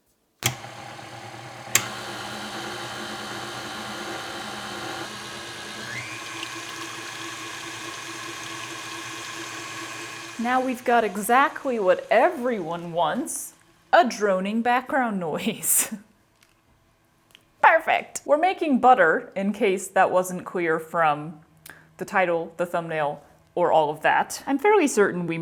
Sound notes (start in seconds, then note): 0.4 click, machine noise, click, louder machine noise; 5.9 rapid whirring with sloshing sounds; 10.4 whirring quiets in the background